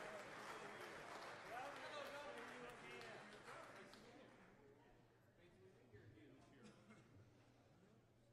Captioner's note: applause